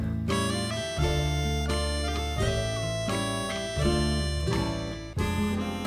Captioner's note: slobbering